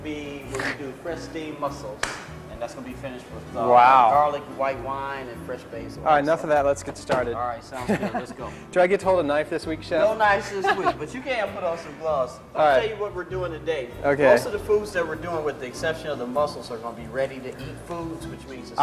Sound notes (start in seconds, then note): 2.0 clap